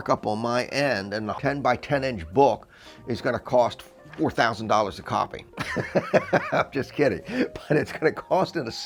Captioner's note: laugher